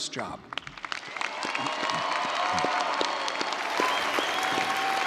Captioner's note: audience applauding